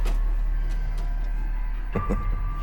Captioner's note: chuckles